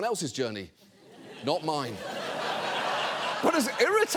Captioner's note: audience laughing